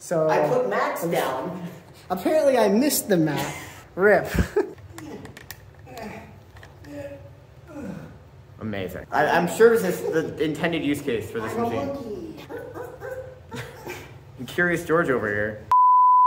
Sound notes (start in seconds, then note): 5.6 suggestive grunting noises